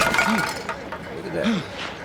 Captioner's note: loud bang; cans rattle